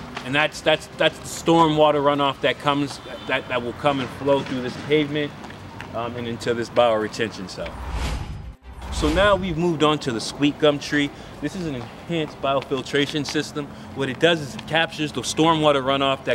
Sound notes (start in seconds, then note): 7.6 logo whooshing; 7.8 upbeat music